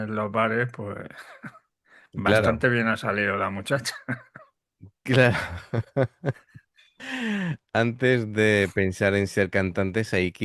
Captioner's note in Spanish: risas